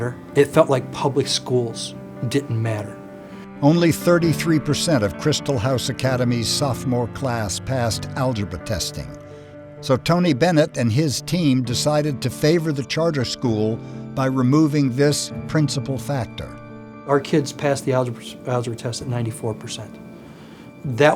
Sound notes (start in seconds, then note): 3.7 voiceover